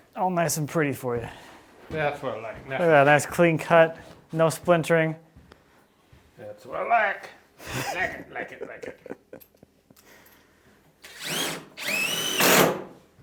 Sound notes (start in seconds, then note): 10.9 laughing